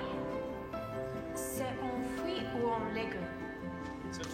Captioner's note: speaking in french